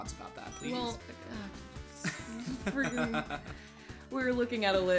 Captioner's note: laughing